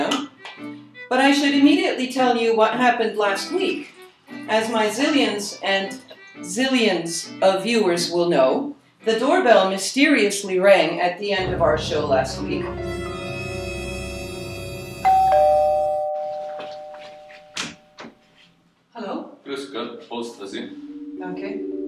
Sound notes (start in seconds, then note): 12.8 sound of doorbell; 17.4 suspenseful music